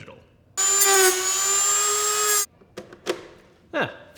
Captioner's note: drill buzzing